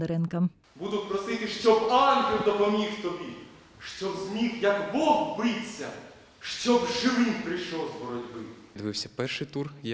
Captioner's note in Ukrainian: декламує вірш